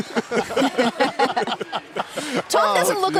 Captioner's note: laughter